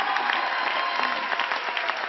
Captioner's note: applause